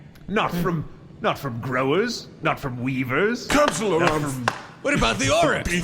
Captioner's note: bangs gavel